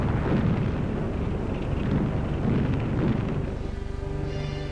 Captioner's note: bombs booming